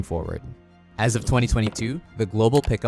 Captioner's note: graphics whooshing; cursor clicking